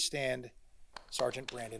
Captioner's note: congregation applauding